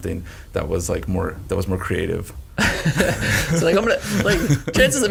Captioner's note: all laugh